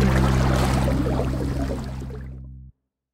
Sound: bright upbeat music fades; water sloshing

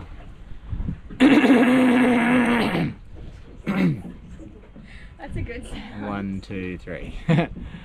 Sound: clears his throat very loudly

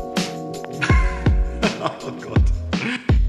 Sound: laughing

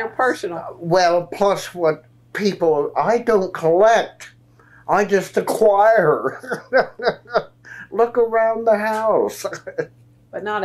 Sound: laughs

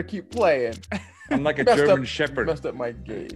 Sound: laugh

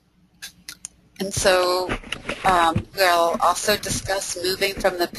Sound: voiceover

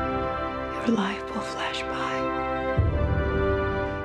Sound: dramatic music; woman whispering

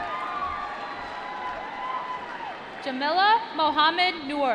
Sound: applause

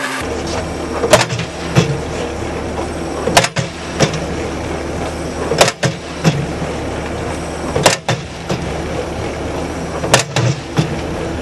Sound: hitting sound from Hammer post driver and skid-steer engine running

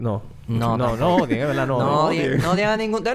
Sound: laughs

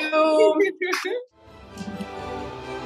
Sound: woman laughs; upbeat music

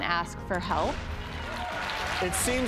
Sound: audience clapping

